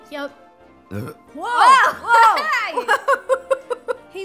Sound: burps

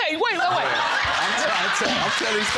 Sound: audience laughing

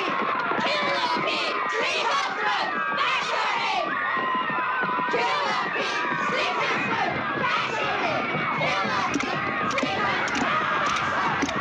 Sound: "Kill the beast" chanting

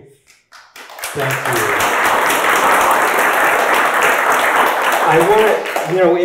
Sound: audience applauding

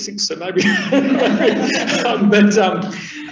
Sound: laughing

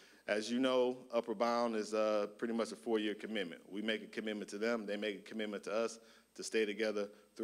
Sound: none

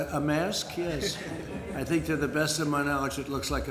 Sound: laughter

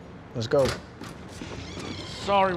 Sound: door squeaking open

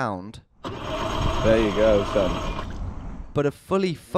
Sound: engine rumbles

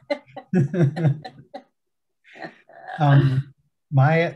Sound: speakers laughing

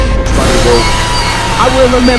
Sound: screaming

